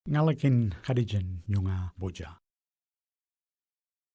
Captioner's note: speaks indigenous language